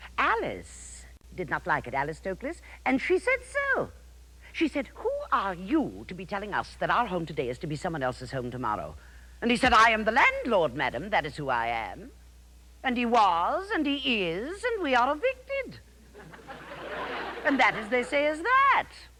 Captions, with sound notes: Alice did not like it, Alice Toklas, and she said so. She said, "Who are you to be telling us" "that our home today is to be someone else's home tomorrow?" And he said, "I am the landlord, madame, that is who I am." And he was, and he is, and we are evicted. (audience laughs) And that, as they say, is that.